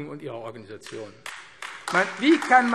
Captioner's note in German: Beifall AfD